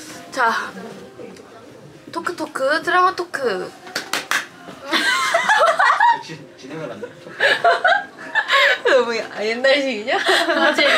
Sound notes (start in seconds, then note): 4.9 laughing